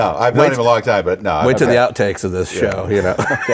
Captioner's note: laughs